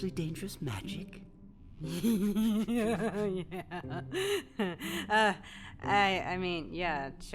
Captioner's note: ominous giggle